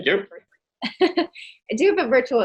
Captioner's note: laughing